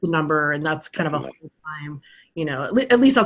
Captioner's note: speaking faintly